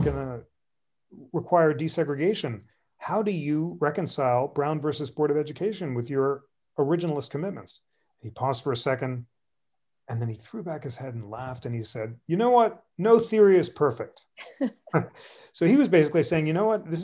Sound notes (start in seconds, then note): 14.3 laughter